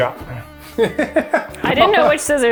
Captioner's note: laughs